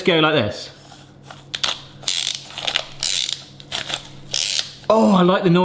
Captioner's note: gadget creaks